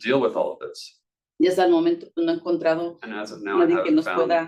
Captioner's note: speaking Spanish